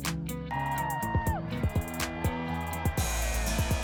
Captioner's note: cheering